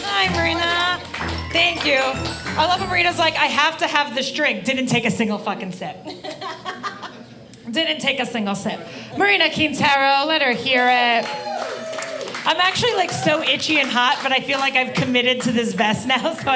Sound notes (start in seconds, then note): 6.1 audience laughing; 11.0 audience applauding